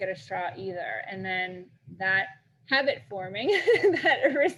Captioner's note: laughs